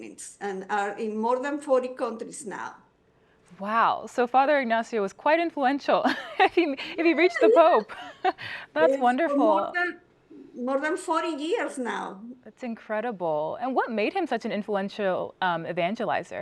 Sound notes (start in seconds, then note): 6.0 laughter